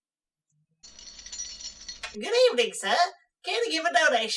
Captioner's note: bell jingles